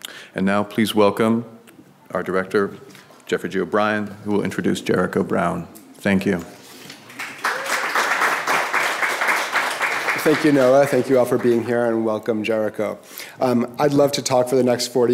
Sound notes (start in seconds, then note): 7.0 applause